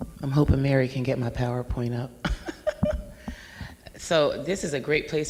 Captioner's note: laughs